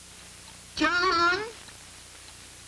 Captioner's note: gran calls out